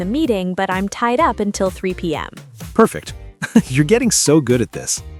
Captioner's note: laughs